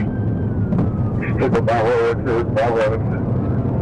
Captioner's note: radio chatter